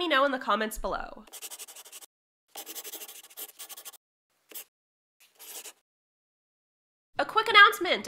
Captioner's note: the sound of a pen scratching. LOGO